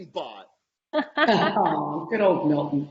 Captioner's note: laughing